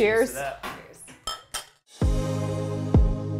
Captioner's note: glasses clinking; upbeat music